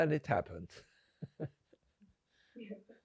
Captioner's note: laughing